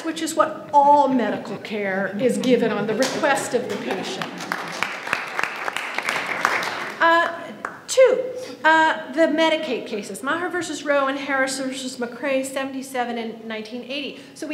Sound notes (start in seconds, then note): 4.5 audience applauds